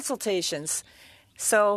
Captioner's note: speaking French